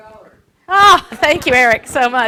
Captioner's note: laughs